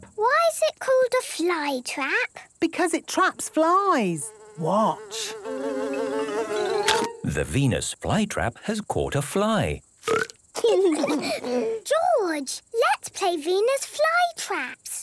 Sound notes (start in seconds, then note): 6.1 buzzing; 6.1 chomps; 10.0 burps